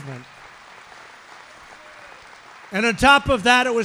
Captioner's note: applause